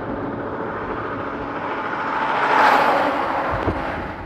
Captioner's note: vehicle passing close